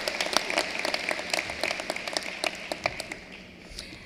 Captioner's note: cheering and applause